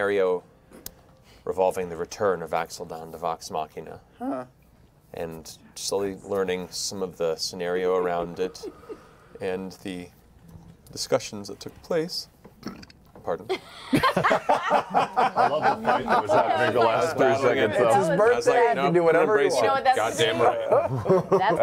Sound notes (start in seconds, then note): 12.6 burps; 13.5 laughter